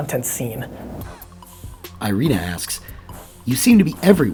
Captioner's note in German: Voice-over